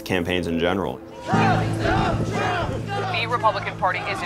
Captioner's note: crowd